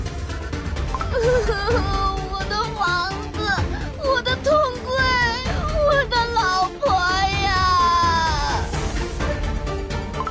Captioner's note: sob sob